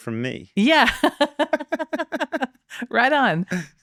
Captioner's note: laughing